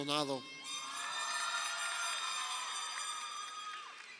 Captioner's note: crowd cheering